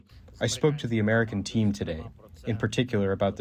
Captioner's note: through translator